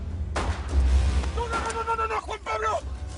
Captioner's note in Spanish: Disparos